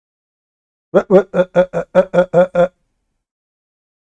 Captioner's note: Ketawa